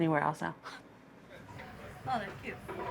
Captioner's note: chuckles